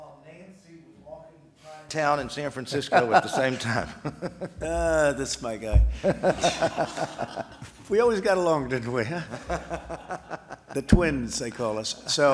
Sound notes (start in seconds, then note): 5.9 laughter; 6.0 laughs